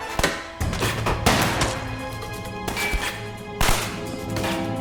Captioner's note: dramatic music; guns firing; dramatic music